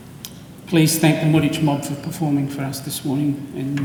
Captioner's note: speaks in foreign language